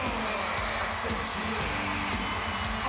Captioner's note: crowd cheering